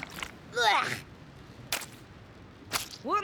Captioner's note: groans; glop! glop!